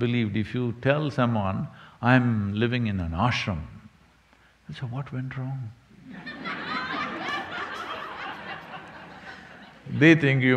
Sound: laughter

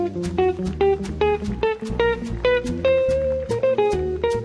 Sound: audience clapping; lively guitar music

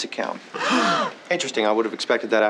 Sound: gasping

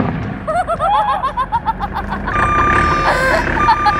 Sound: exploding; laughing

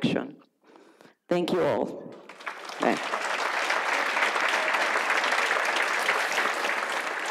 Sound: audience applauds

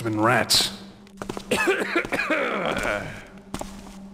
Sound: guard clears his throat

